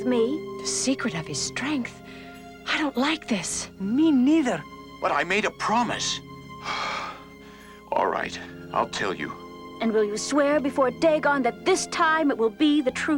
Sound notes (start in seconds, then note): 6.6 sighs